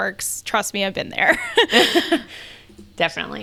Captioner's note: laughs